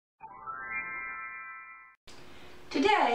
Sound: magick Wand Sound

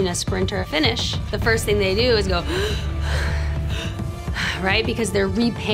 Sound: breathes in and out heavily

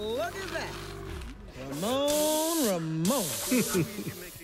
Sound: chuckles

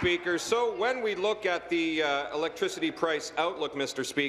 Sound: applause

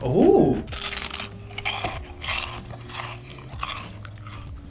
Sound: crunching

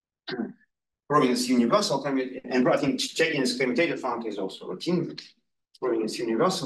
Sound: audio distorting

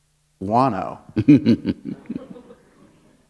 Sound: laughter

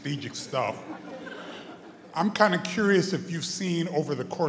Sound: brief laughter

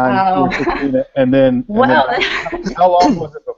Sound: laughter

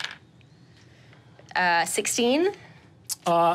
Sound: die taps table

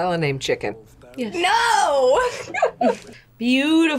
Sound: laughs

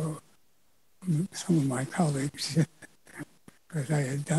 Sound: chuckles

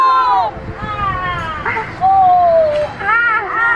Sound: groaning

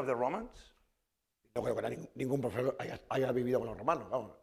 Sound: speaking spanish

